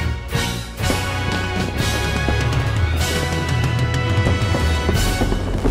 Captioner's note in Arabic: الألعاب النارية تفرقع